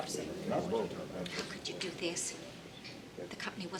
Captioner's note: background people chattering